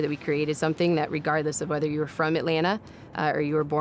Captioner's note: none